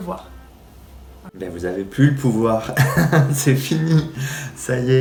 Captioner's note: laughs